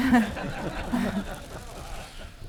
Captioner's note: laughter